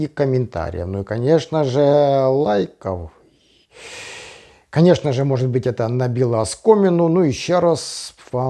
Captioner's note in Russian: вздыхает